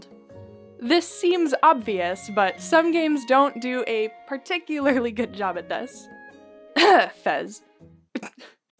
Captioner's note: cough